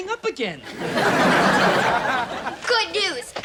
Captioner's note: audience laughing